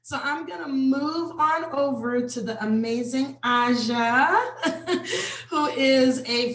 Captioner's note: laughs